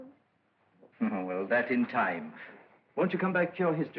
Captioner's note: chuckles